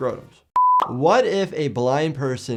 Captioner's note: screen beeping